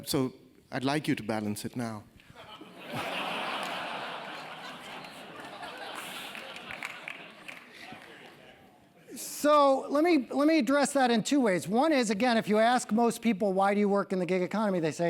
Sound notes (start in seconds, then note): 2.4 laugh; 3.4 applause